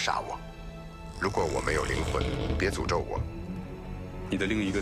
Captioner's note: galley creaking